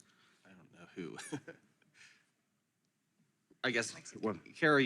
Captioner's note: laughs